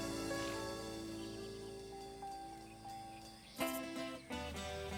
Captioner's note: birds chirping; bluesy music